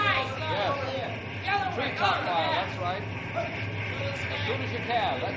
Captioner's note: indistinct chatter